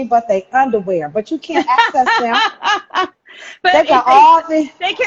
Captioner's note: laughs